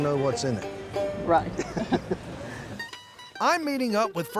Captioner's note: both laugh